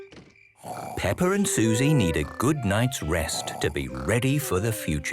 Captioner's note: Peppa and Suzy snoring